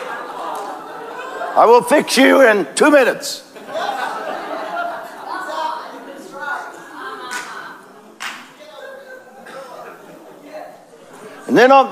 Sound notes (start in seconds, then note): 4.6 congregation laughing